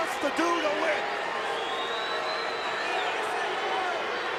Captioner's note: crowd booing